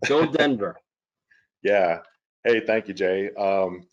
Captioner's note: laughs